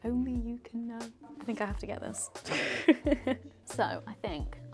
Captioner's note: laughs